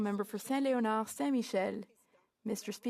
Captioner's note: speaking French